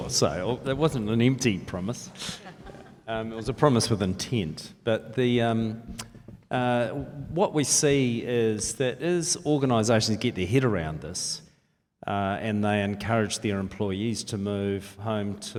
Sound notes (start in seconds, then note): 2.2 laughs